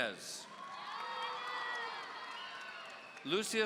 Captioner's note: audience cheering